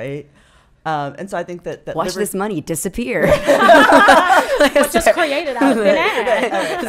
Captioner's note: laughing